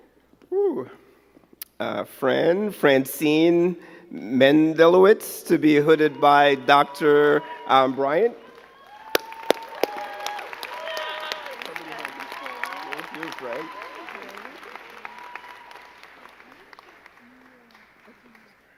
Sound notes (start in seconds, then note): 12.2 both chattering; 14.7 crowd cheering and clapping